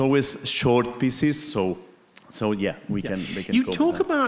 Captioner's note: faintly speaking